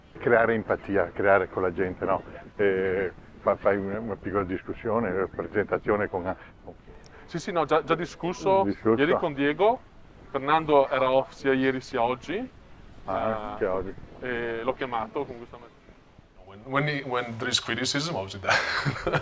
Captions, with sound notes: [foreign language] [foreign language] [foreign language] When there is criticism, obviously that